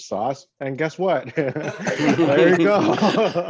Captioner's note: laughs